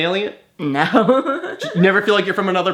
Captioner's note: laughs